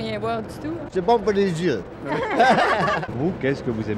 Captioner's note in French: rires